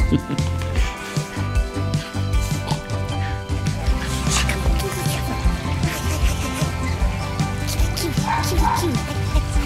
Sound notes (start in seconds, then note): 5.2 baby talk